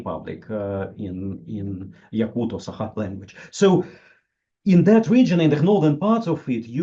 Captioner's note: in the Yakut/Sakha language